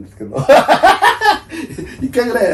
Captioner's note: laughs